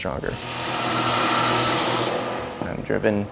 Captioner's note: tool noise